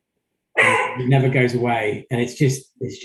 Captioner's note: dog barking